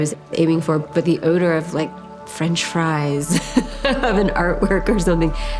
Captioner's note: laughs